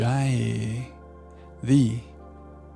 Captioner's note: speaking in foreign language